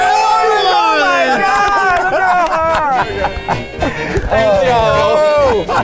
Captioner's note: everyone cheering; upbeat music